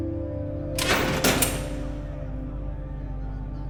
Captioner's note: door rattling; muffled shouting over expressive electronic music